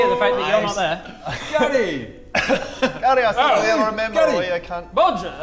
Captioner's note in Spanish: Risas